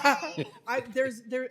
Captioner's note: laughter